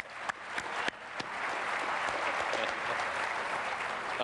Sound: applause

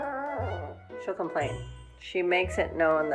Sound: cat grunting

